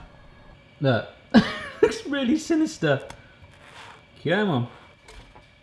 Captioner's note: laughs